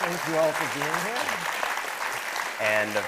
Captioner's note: attendees clapping